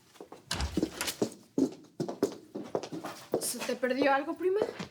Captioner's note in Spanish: ruido al abrir la puerta